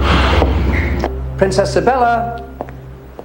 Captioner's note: sighing